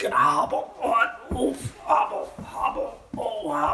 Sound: groaning

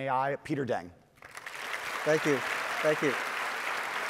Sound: audience applauding

